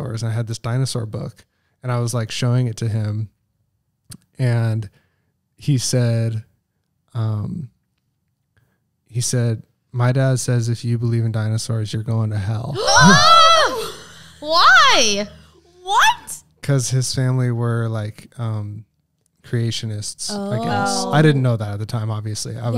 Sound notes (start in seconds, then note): 12.8 both shouting